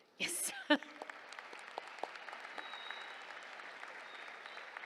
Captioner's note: applause